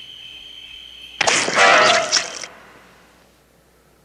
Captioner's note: splat, squirt